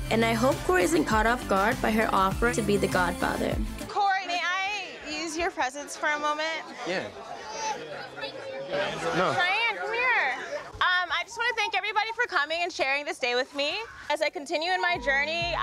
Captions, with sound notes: And I hope Cory isn't caught off guard by her offer to be the godfather. - Cory, may I use your presence for a moment? - Yeah. (guests chattering) No. - Cheyenne, come here. I just wanna thank everybody for coming and sharing this day with me. As I continue in my journey, (calm upbeat music)